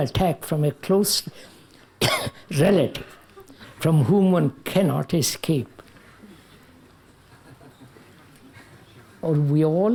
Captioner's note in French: Rires